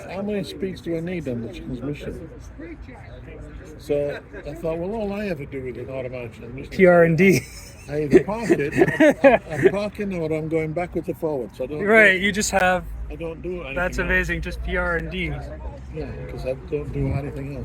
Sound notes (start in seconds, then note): 7.3 laughing